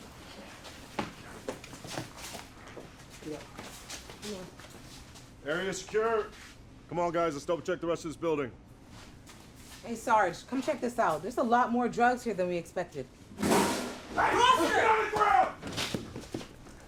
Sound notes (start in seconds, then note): 13.4 loud bang; 15.1 shouting; 15.9 footsteps